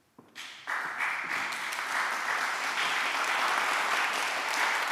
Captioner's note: applause